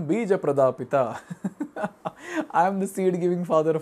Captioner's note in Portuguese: risos